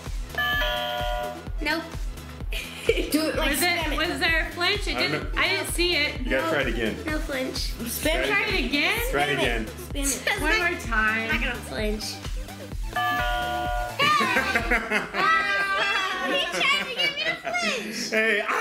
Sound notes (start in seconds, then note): 0.4 chimes; 2.5 laughs; 12.9 chimes; 14.0 laughing